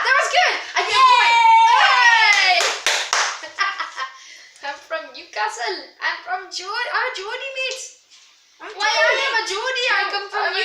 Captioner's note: laughs